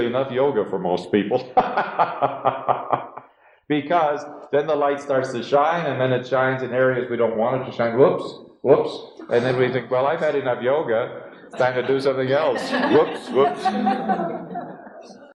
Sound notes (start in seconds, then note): 1.2 laughs; 11.4 laughter